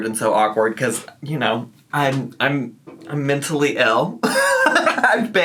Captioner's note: laughs